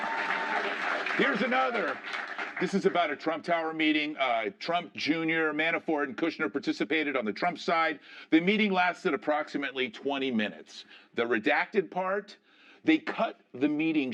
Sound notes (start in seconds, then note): 0.0 cheering and applause